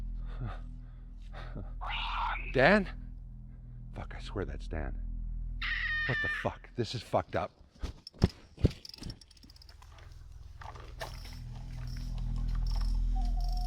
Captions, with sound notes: (owl squawking) - [Disembodied Voice] Ron. - Dan. Fuck, I swear that's Dan. (owl shrieking) What the fuck? This is fucked up.